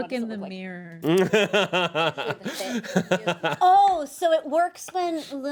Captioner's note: Eric laughs